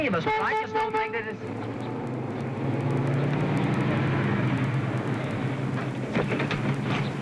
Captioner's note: horn honking